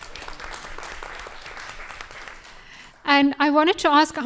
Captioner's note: audience applauding